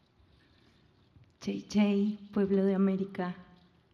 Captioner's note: speaking Native language, then Spanish